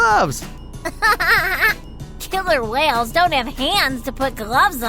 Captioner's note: laughing